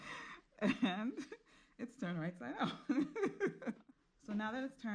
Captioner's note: women laughing; laughing